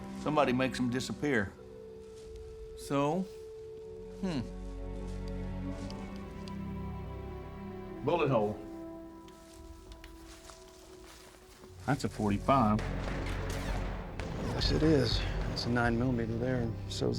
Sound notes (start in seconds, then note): 8.4 footsteps; 12.7 flashback, gunshots fired